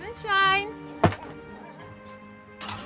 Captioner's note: thud